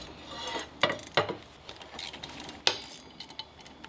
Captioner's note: metal clanking